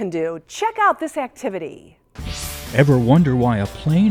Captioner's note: sound Effects